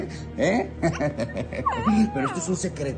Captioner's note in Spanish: Risas